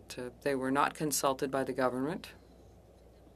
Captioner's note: speaking French